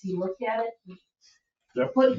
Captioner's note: members chattering at same time